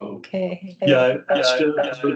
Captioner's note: voice echo; mic echo